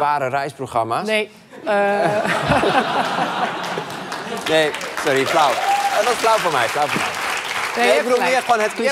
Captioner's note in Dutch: gelach en applaus